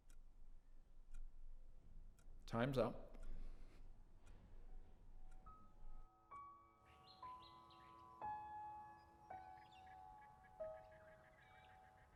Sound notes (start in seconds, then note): 4.5 gentle music; 6.8 birds chirping